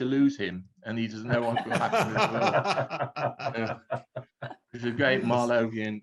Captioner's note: everyone laughing